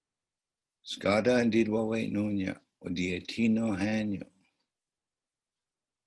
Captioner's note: speaking in Onondaga